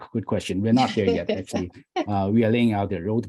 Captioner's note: laughs